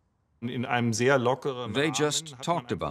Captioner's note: german speech